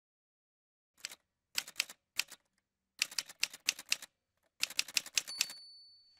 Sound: typewriter sounds

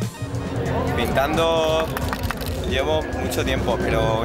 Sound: speaking in Spanish

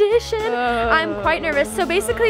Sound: groaning

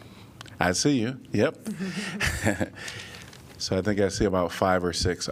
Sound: laughter

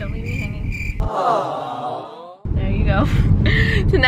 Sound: electronic Voice

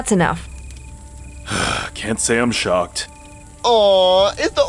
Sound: sigh

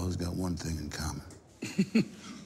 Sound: laughter

